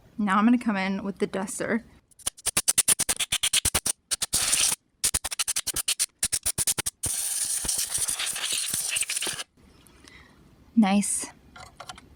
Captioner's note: sounds of air duster doing its thing